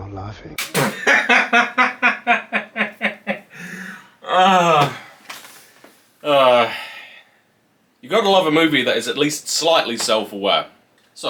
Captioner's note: laughs